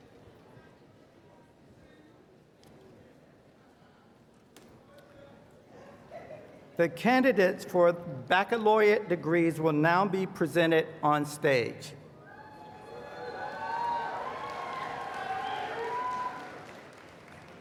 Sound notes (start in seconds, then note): 12.9 applause